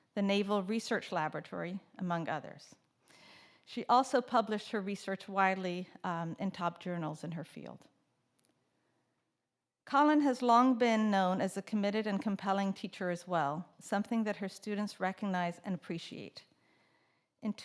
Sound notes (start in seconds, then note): none